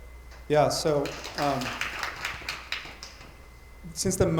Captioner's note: attendees applauding